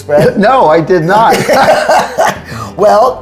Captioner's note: laughing